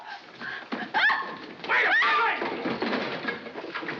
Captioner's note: shouting